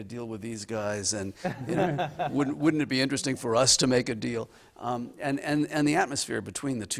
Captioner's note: laughter